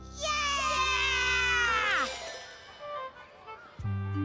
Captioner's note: all cheering